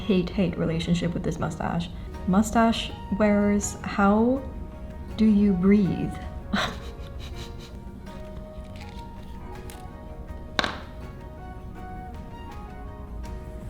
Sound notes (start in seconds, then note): 6.5 chuckles in despair